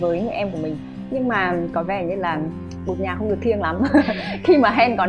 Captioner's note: laugh